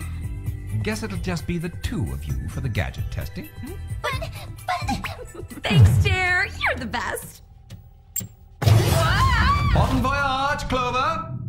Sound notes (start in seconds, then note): 4.6 chuckles